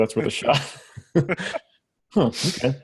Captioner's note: laughs